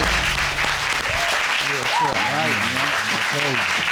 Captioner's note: indistinct chatter; audience cheers